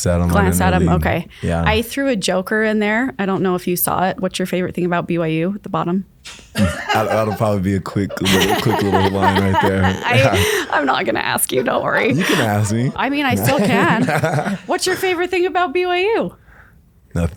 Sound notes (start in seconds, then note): 6.6 laughing off-camera; 8.8 laughs